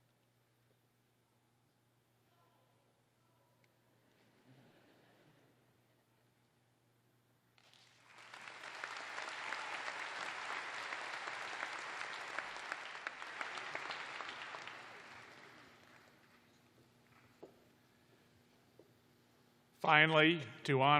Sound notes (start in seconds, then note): 3.2 applause